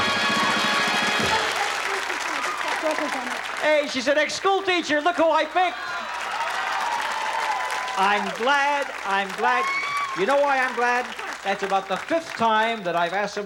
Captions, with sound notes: -I'm an ex-school teacher. -Hey, she's an ex-school teacher! Look who I picked! -(cheers, applause) I'm glad, I'm glad! -(screams) -You know why I'm glad? -Why? -That's about the fifth time that I've asked someone to spell "Caribbean,"